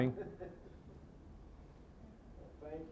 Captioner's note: scattered chuckling